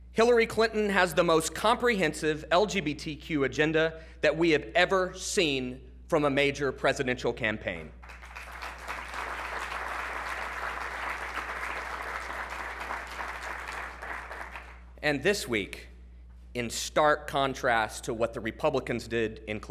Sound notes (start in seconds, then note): 7.9 applause